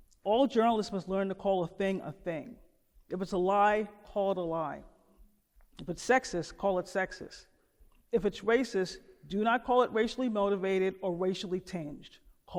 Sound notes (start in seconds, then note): none